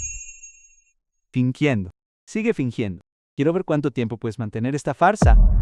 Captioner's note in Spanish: campana